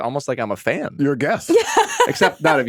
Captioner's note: laughing